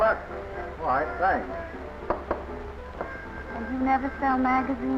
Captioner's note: knocking